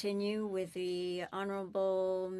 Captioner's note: speaking FRENCH